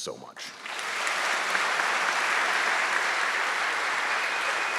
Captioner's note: audience clapping